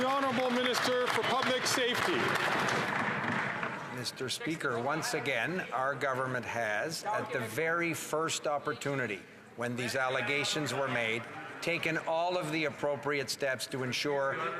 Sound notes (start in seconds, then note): 4.6 some Applause